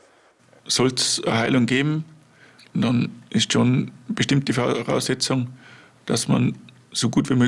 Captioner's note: German